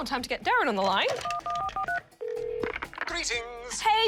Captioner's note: buttons beep, line rings